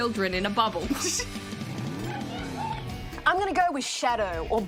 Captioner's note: laughs